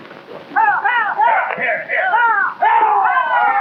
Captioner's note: men shouting